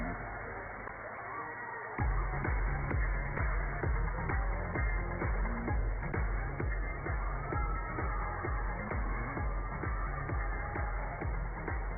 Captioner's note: cheers and applause